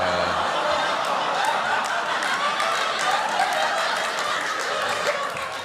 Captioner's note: laughter